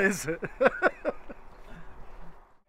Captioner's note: laughs